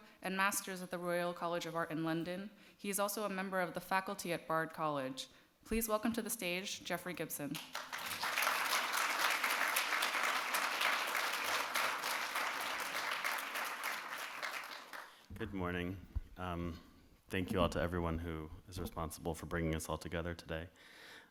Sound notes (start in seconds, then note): 7.5 audience claps